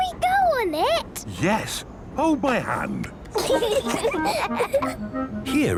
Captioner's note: children giggling